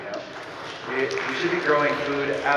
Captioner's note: audience clapping